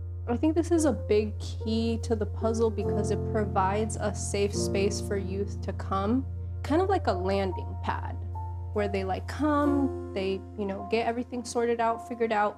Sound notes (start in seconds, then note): none